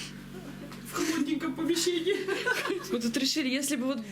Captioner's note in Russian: смеются